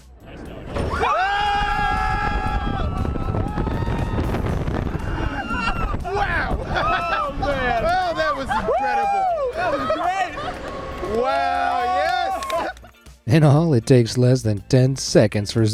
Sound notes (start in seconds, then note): 0.8 riders screaming